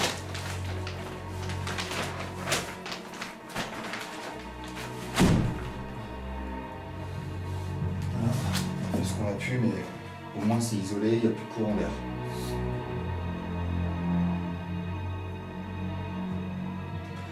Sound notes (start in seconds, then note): 4.8 ominous music continues; 9.0 speaks French